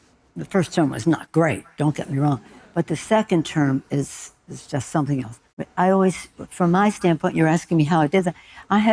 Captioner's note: none